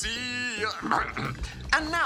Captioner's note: coughs